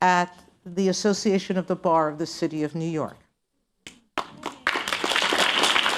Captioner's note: applause